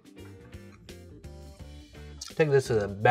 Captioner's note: chewing